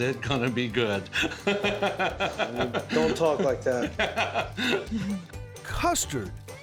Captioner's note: chuckling